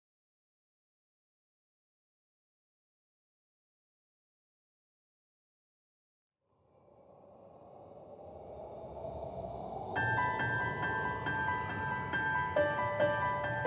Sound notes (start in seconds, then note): 6.6 wind blowing; 9.9 soft piano music